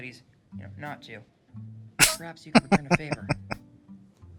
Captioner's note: laughing